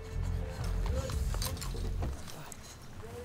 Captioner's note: quiet voices